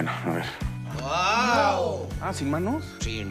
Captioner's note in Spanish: Exclamaciones